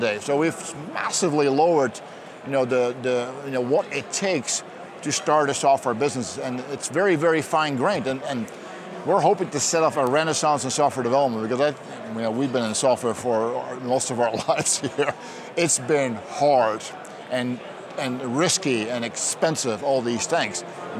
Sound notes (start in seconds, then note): 14.2 chuckles